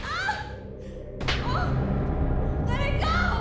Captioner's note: slaps